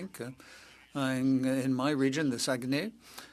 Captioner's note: speaking French